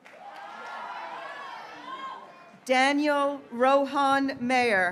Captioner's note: graduates cheering